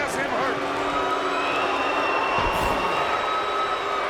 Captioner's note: crowd booing